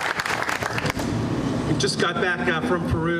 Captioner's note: applause